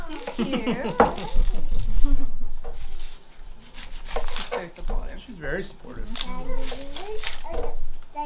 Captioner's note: laughter